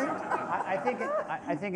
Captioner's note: laughter